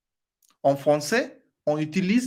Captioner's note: in french